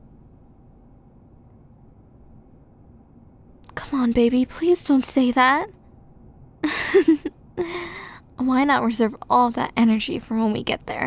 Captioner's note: giggle